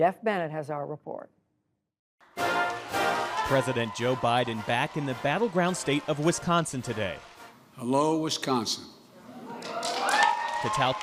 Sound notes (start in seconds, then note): 9.4 cheering and applause